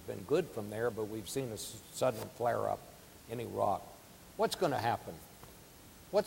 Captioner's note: none